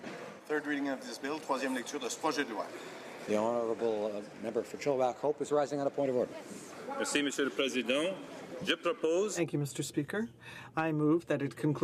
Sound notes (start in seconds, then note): 6.1 speaking French